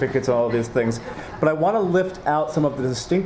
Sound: laughing

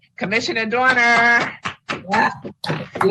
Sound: all applauding

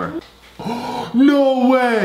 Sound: gasp

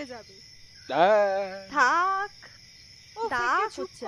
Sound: hums

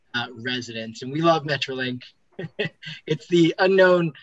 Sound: laughs

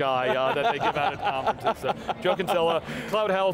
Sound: laughing

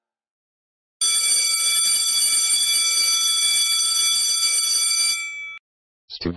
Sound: school bell ringing

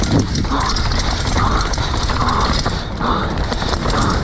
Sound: bike clattering

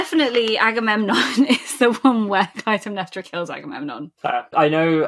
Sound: laughing

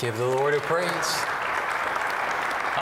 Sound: applause

